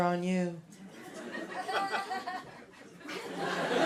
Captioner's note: laughter